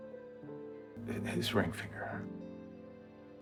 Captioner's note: voiceover